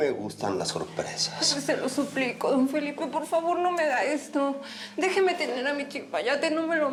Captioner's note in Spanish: llorando